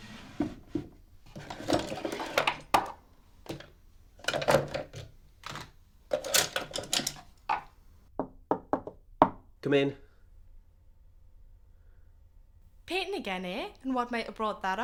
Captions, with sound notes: (Key turns and brushes tumbling out of cupboard) (Knock, knock, knock, knock, knock... knock, knock) Come in. Painting again eh? And what might have brought that on?